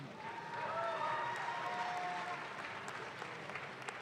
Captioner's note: audience claps